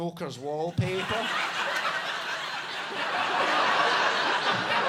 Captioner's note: audience laughing